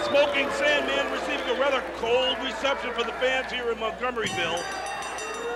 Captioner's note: crowd cheering